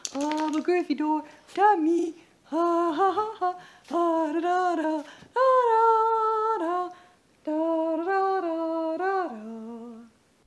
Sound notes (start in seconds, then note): 2.5 humming